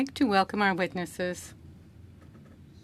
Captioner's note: speaking French